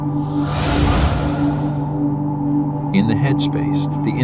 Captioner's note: whooshing sound